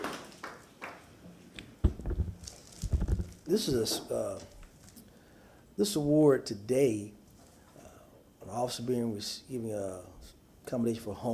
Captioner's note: applause